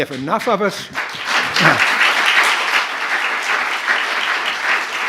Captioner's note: applause